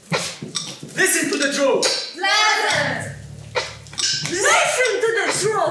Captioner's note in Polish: Po angielsku